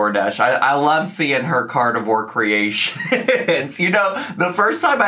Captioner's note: laughs